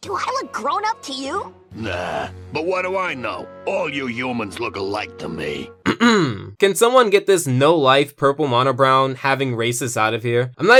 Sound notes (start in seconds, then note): 5.8 clearing throat